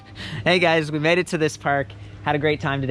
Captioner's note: laughs